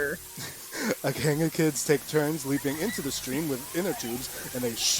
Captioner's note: children playing